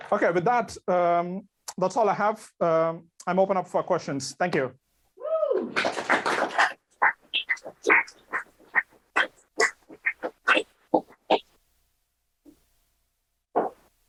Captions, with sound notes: Okay. But that's, that's all I have. I'm open up for questions, Thank you. - woo! (clapping)